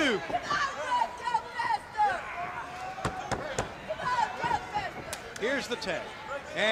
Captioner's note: crowd chatter